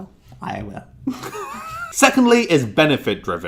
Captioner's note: laughter